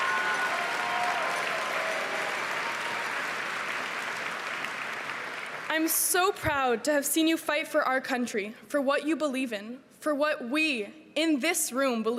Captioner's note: cheering and applause